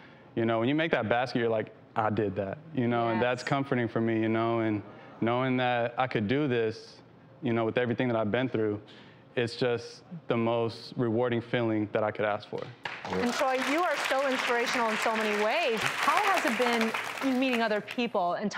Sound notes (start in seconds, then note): 12.6 applause